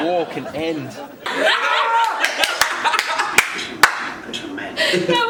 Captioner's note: laughs